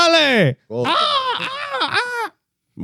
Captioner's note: screaming